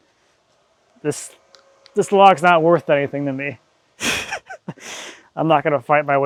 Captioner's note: chuckles